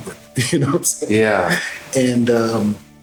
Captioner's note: laughing